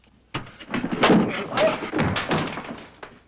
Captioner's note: punch thuds; Krenner grunting